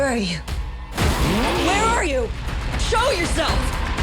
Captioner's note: cars crash